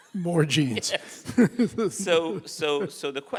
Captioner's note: laughing